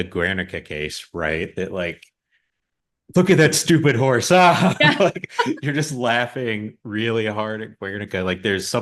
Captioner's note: both laugh